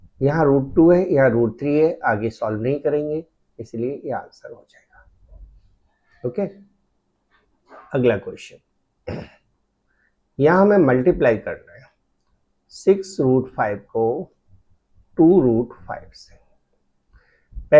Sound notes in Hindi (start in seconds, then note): 9.0 गला साफ़ करने की आवाज़